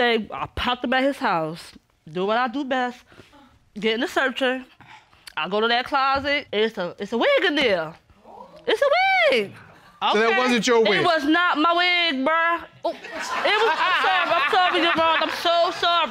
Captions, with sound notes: I popped up at his house, do what I do best, getting to searching. I go to that closet, it's a-- it's a wig in there. -[woman exclaiming] -It's a wig! -Okay. -And it wasn't your wig? It was not my wig, bruh. -Oh. -[audience laugh] It was-- I'm sorry, I'm sorry, Your Honor, I'm so sorry,